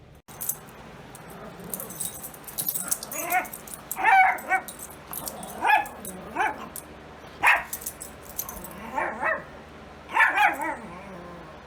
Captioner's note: Ella growls and barks